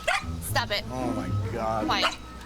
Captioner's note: dog barks